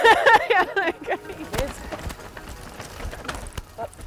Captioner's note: laughing